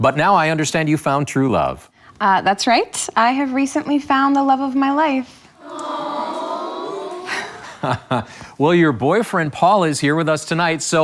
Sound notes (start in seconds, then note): 5.5 audience awwing